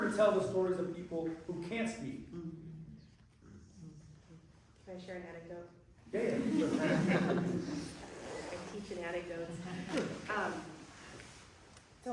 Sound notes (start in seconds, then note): 6.2 laughter